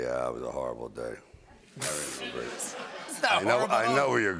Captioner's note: laughter